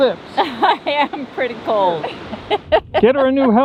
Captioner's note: laughs